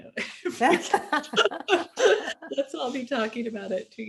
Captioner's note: women laughing